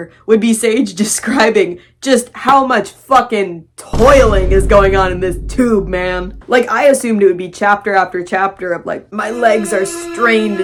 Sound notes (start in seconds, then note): 3.9 boom; 9.2 scary music